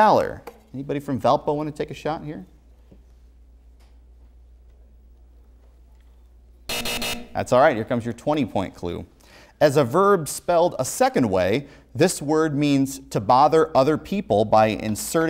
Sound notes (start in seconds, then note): 6.6 buzzer